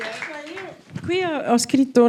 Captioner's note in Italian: Applauso